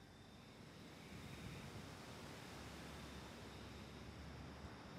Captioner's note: crickets chirping